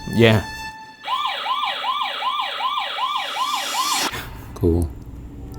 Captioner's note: motion alarm blaring